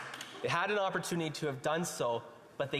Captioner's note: some Applause